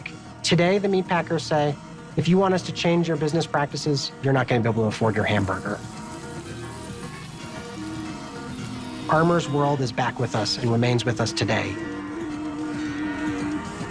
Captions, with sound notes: the common laborer won't be able to afford their beef steak." Today, the meatpackers say, "If you want us to change your business practices, you're not gonna be able to afford your hamburger." (meat sizzling) Armour's world is back with us and remains with us today.